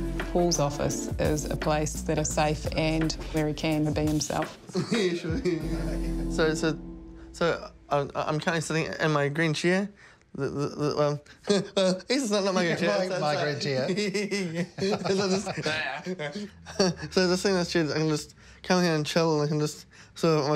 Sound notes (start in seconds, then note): 4.6 both laugh; 12.6 laughs; 13.8 both laugh; 14.0 groans, laughs